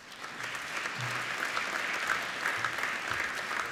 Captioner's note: applauding